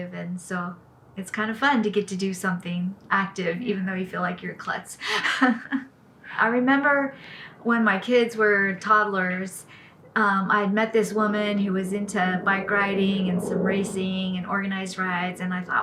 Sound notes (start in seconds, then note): 5.0 laughs